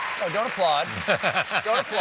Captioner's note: applause